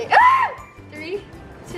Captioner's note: yelling